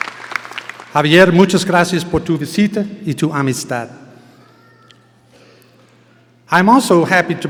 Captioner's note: speaking in foreign language